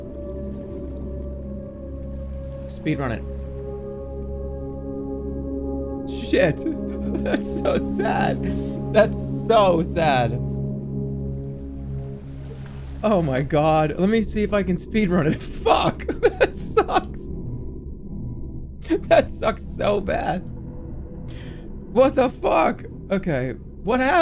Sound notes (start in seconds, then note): 15.9 giggling